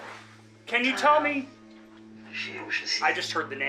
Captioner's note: box mutters